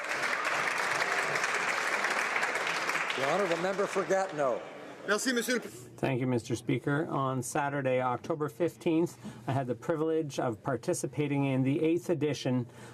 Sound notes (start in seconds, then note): 0.0 applause